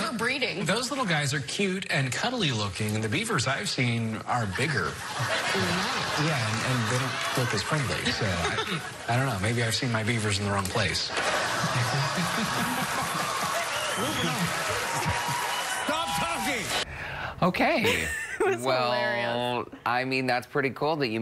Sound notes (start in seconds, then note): 17.3 laughter and Applause; 17.8 laughter; 19.0 laughter and Applause